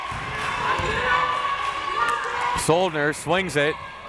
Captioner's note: crowd members chanting